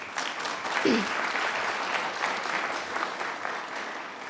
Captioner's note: applause